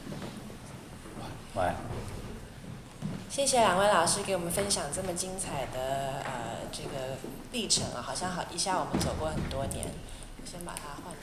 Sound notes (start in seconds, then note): 4.0 Mandarin